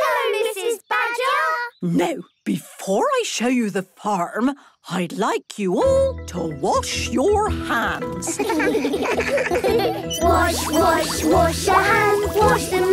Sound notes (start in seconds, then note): 8.3 children giggling